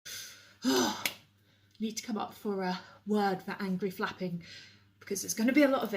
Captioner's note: angry sigh